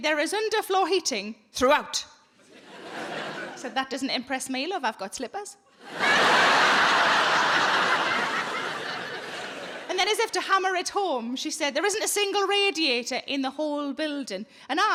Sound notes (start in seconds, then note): 5.8 audience laughing